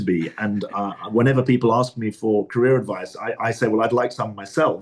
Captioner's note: laughs